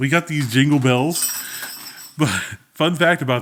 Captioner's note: bells jingling